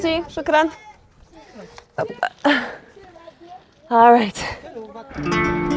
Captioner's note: woman speaking in foreign language